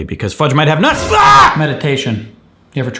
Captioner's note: shrieking; dramatic violin music